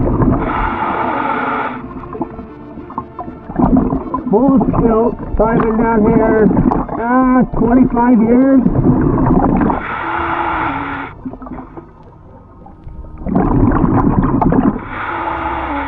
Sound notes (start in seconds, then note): 0.1 air swooshing; 0.1 water bubbling; 9.7 air wheezing; 9.9 water bubbling